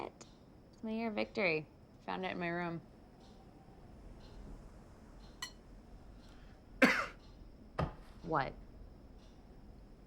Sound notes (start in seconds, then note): 6.8 cough